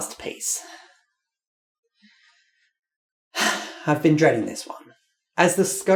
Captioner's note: sigh